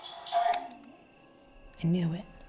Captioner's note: recorder clicks